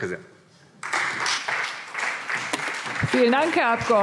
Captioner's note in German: Beifall SPD